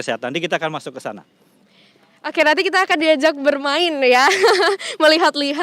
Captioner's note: laugh